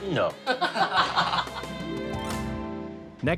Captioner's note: laughs